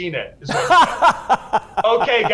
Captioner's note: laughs